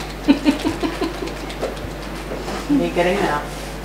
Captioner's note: laughs